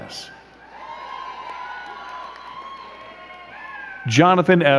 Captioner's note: crowd cheering and clapping